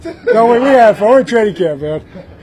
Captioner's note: laugh